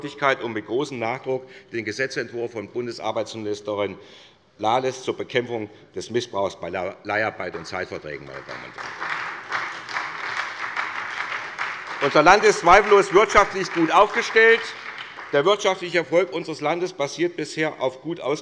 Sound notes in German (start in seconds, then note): 8.2 Beifall bei der SPD